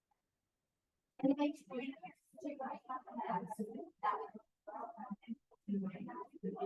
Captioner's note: people chattering in background